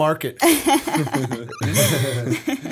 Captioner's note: laughter